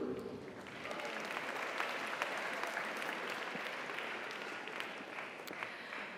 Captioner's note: audience applauds; audience cheers